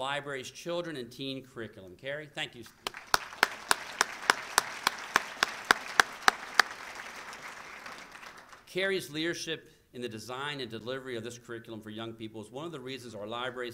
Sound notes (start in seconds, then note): 2.7 applause